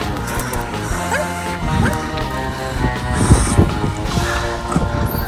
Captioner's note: rough breathing